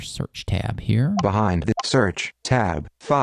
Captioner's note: beeps